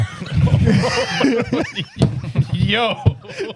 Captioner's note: laughing; speaking In Foreign Language